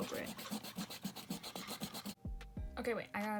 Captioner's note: aggressively erasing